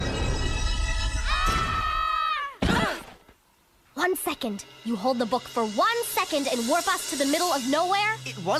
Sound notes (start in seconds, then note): 1.2 kids screaming; 2.7 all grunt